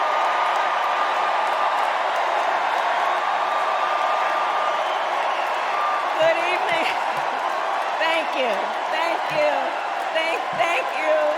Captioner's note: cheers and applause